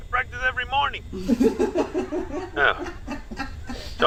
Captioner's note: Nev laughs; Sandra laughs